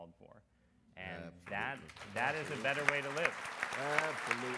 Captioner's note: audience applauds